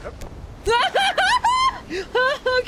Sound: screaming

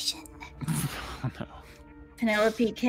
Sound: laughs

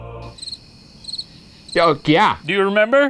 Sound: crickets chirping

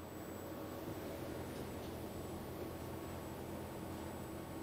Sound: laboratory ambient noise

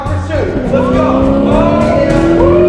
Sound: sirens wail

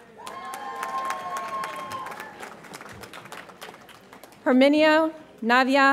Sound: audience applauds and cheers

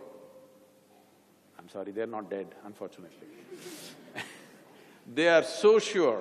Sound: laughter

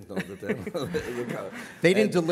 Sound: laughter

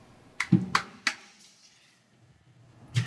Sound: claps

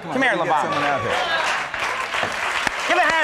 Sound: Conan and crowd applauds

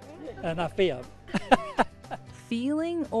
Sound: laughing

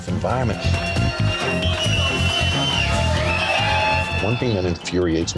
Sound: cheering and whistling

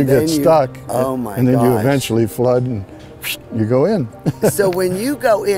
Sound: laughs

